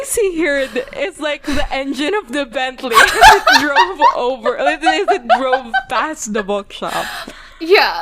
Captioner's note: laughs; laughing